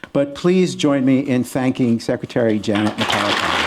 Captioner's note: applause